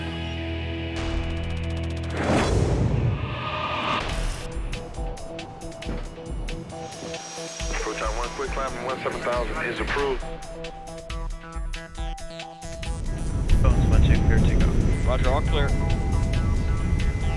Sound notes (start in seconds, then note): 1.3 rapid clacking; 4.9 fast paced music